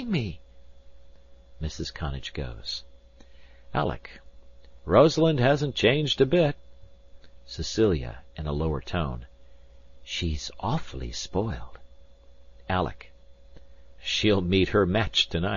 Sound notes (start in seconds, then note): 8.5 in a lower tone